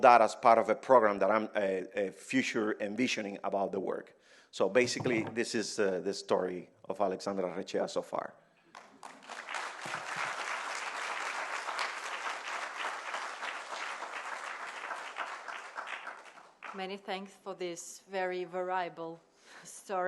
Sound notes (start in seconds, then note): 8.7 applause